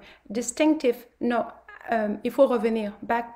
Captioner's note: speaks French